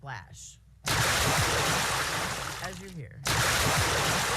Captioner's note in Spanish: efecto sonoro de chapoteo repetido